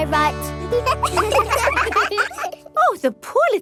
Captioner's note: children laugh